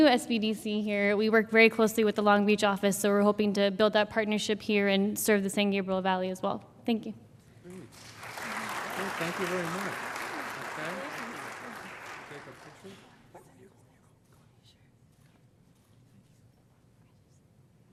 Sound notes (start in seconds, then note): 7.9 brief applause